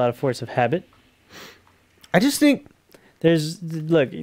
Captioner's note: sniff